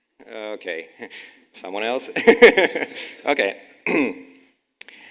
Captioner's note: laughes